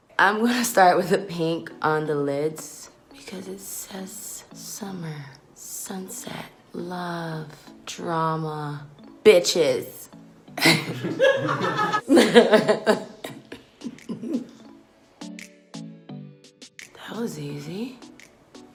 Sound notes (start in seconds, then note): 10.6 laughing; 14.7 upbeat music